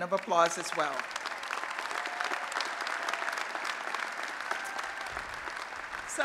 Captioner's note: applause